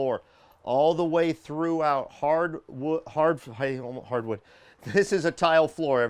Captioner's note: stammering